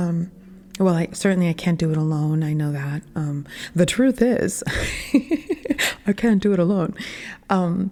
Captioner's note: laughing at self